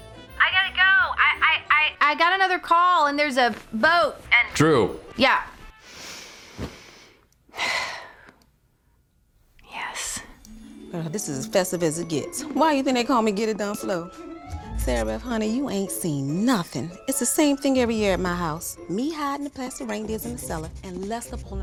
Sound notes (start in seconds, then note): 7.5 sighs